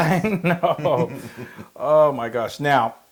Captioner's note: laugh